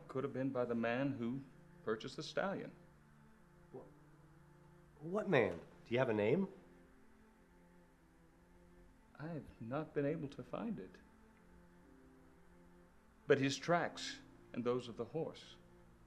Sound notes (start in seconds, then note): none